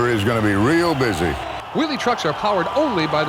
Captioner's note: voiceover